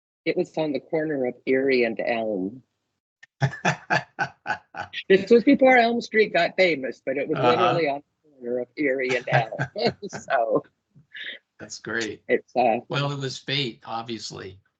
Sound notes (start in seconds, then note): 3.4 laughing